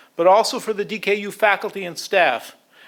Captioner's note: none